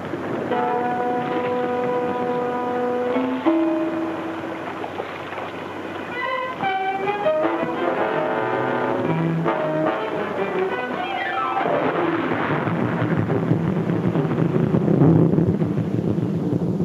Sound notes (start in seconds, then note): 0.0 water laps; 1.0 tense music; 5.5 dramatic music; 11.8 water splashes; 11.9 intense pounding music